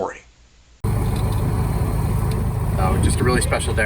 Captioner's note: plane engine whirring